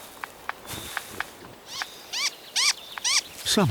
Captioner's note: bird chirping